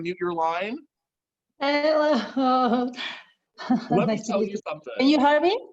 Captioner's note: laughs